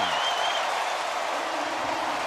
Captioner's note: cheering